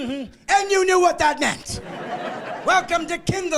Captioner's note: laughing